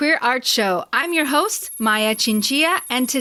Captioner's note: sci-fi computer typing sound